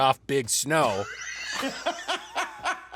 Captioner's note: laughter